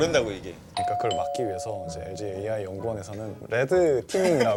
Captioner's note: ding Dong